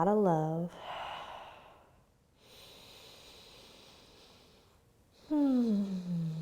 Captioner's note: breathes deeply